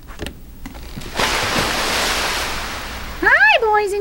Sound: splash

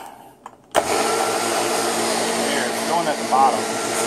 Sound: sound of blender

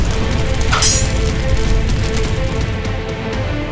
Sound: swords clash

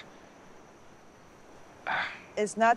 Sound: huffs; sighs

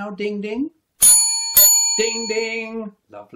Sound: ding ding

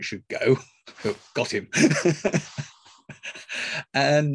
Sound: laughs

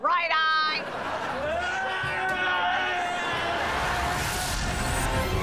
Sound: screaming

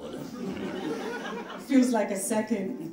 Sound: audience laughing

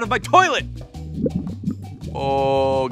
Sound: stomach gurgling

